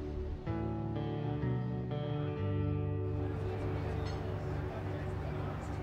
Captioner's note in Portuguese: música de guitarra lenta; conversa da multidão